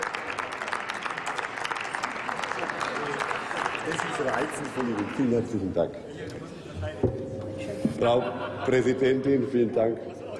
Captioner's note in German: Applaus